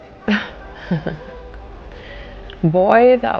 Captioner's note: laughing